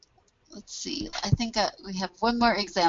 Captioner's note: voiceover